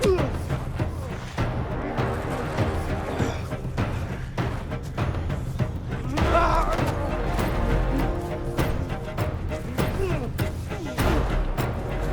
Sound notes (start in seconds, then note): 1.3 dramatic music; 6.1 both moaning